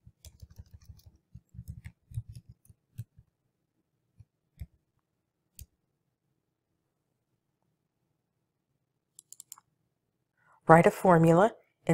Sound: computer clicking

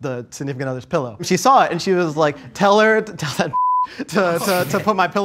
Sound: beep

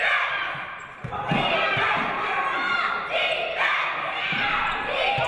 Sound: cheerleaders chanting song

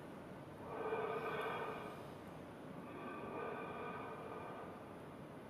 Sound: rhythmic breathing continues

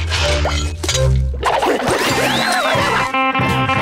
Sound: panting

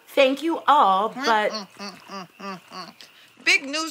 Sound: grunting

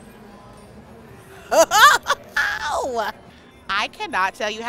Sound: laughing

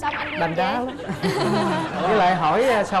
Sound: laughing

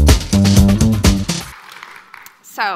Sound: audience applauding

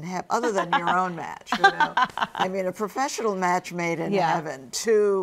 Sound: Misty laughs

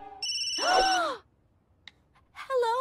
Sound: phone rings; they gasp

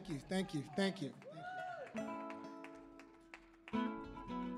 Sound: audience member cheers

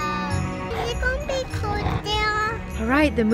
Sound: baby talks

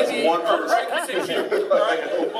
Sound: laughing

